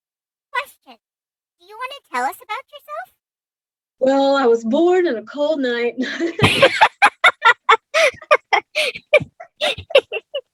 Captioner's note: laughs